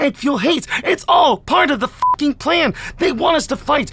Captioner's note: beep